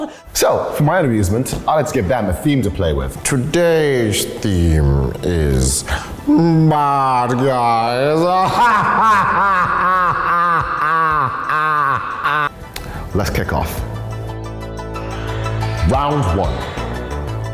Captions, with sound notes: So for my own amusement, I like to give them a theme to play with. [Dr. Evil voice] Today's theme is Baaaaad Guys [villainous laugh] Let's kick off. Round one.